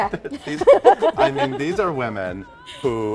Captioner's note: laughing